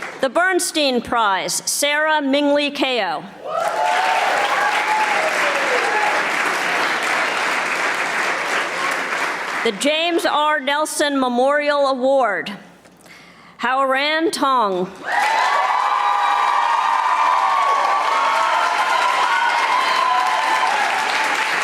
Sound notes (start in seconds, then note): 3.4 audience applauding; 15.0 audience applauding